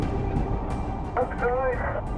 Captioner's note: speaking over radio